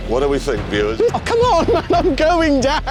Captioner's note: yelps